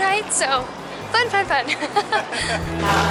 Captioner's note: laughter